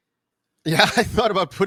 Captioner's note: laughs